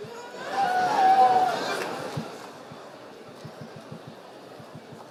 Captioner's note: cheering